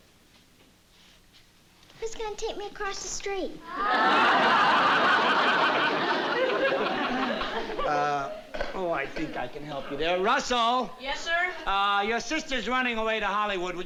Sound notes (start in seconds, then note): 3.7 laughter